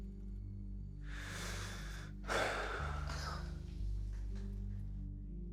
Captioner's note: Jeremy exhales softly